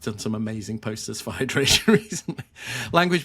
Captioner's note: chuckling